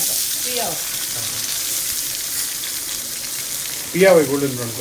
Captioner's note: onions sizzling